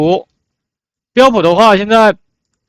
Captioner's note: in Mandarin